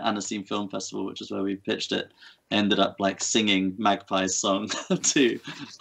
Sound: laughs

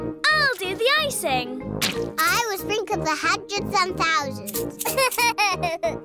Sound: laughs

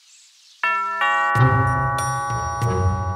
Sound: doorbell; suspenseful music

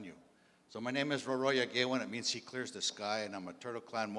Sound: in English

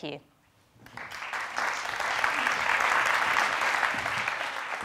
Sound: audience applauds

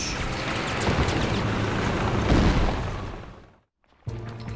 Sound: tank rumbling; rapid gunfire exploding; ominous instrumental music

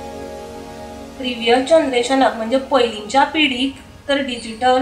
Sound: speaking konkani

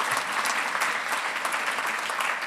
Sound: applause

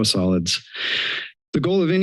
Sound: inhales

